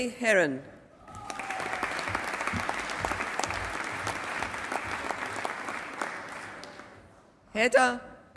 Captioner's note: applause